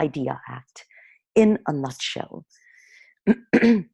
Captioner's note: clearing throat